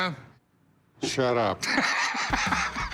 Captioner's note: chuckling